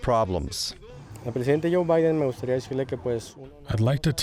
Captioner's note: speaking Spanish